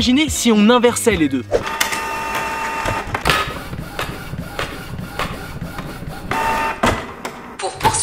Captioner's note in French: bruits d'imprimante